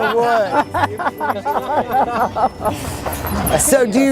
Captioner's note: laughing